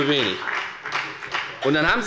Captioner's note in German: Beifall bei der FDP